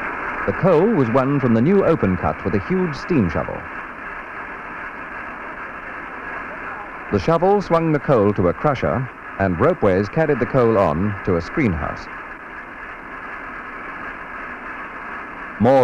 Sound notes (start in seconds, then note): 4.6 sound of machinery; 12.5 sound of machinery